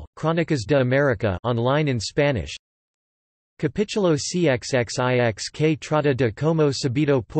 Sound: on line in Spanish

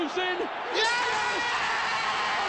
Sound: screams

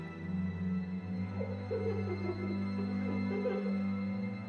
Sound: Jamie laughing

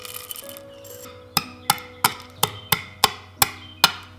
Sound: gentle crushing

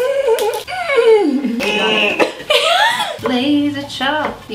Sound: grunts; laughs

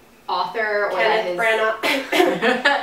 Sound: fake Cough

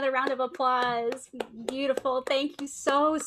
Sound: clapping hands

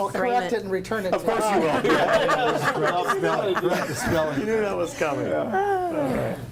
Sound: group laughs

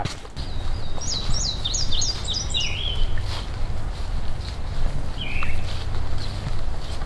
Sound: bird sounds

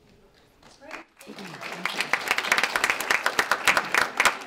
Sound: applause

